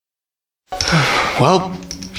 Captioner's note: sighs